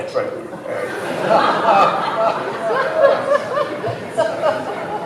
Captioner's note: laughter